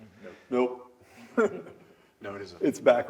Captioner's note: laugh